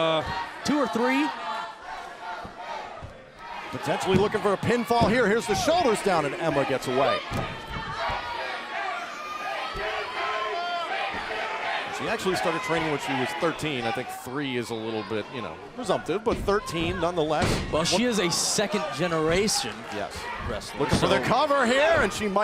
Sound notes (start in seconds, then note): 10.1 crowd cheering